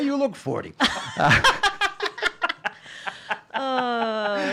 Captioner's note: laughing